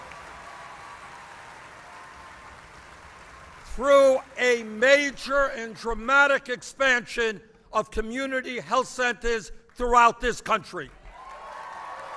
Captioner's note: applause